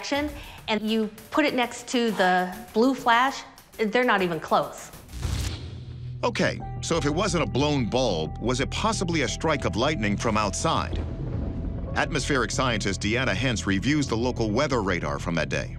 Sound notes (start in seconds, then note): 10.2 thunder rumbles